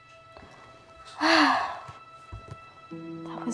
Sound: heavy exhaling

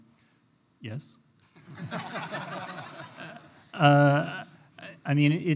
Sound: laughter

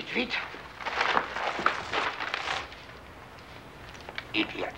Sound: bag rustling

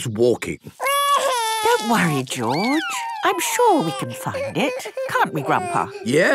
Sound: George wailing

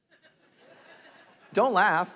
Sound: congregation laughing

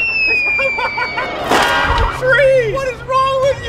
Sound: laughs

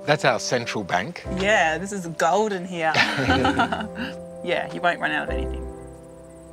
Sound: laughs

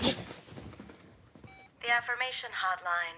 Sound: cellphone beeps

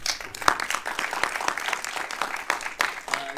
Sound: audience applauding

